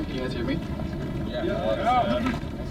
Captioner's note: crowd